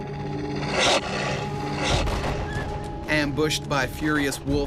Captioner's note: growling